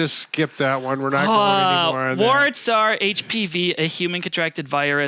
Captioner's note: sighs